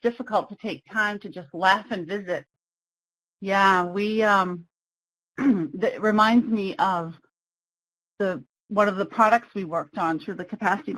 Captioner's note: clears throat